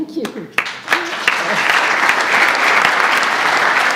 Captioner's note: audience applauds